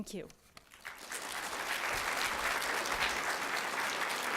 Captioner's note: applause